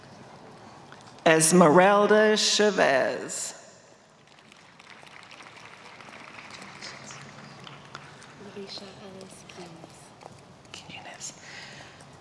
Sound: applause

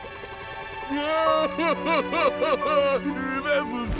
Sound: crying

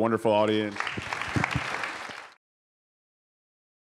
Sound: applause

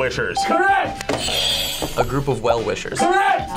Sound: buzzer rings

